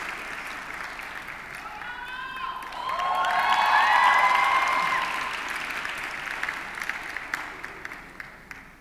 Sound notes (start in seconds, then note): 3.5 audience cheers and applauds